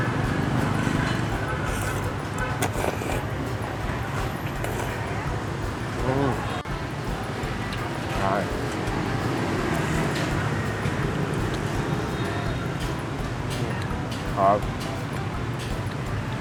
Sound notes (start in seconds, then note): 0.0 busy slurbing